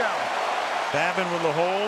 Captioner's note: cheering